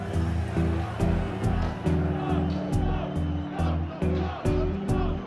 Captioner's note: crowd chanting